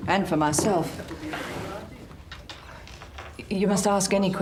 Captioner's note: Henry talks tersely with caller